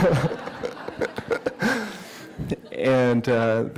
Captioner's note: laughter